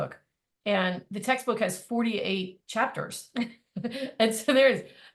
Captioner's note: laughing